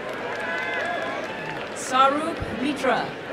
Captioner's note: applause and cheering